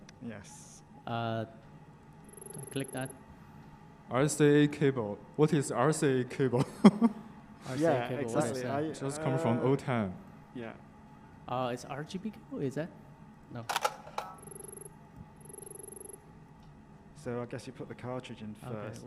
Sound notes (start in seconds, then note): 6.7 laughs; 13.9 text beeping